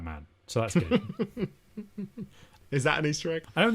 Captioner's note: laughs